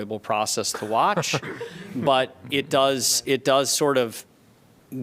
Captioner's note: laughter